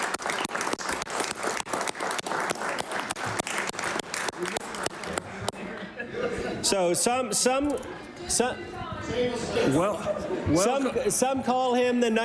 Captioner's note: applause